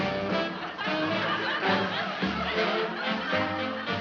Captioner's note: laughing